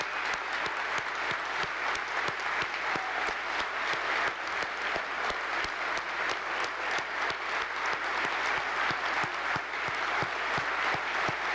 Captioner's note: applause